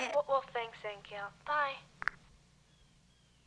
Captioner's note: click